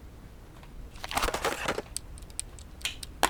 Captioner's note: tripod clicking